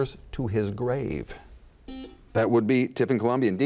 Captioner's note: buzzer buzzes